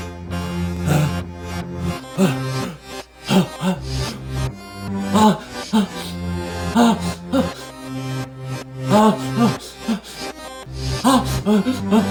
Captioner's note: gasping